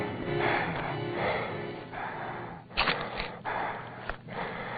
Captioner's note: breathing heavily